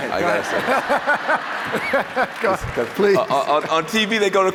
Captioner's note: laughter